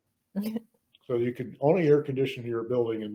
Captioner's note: stoner laughs